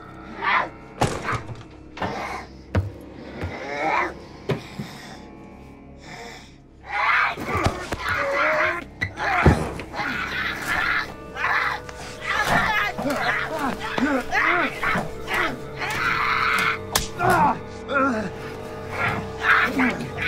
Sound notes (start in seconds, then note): 0.1 door opens; 0.2 growling; 10.1 screaming